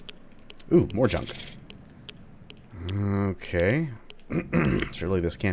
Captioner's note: clears throat